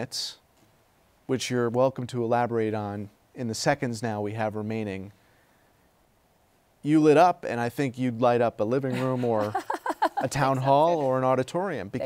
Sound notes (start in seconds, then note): 8.9 laughs